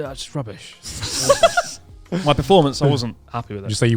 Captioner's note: laughs